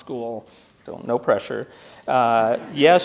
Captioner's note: audience laughs